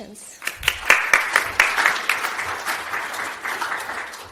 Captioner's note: applause